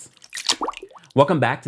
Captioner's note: water dripping sound